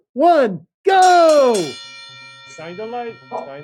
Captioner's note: bell ringing